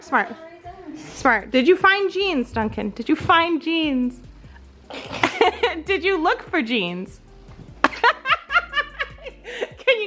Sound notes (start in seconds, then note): 4.9 laughing; 7.8 laughing